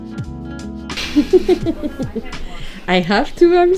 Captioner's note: giggling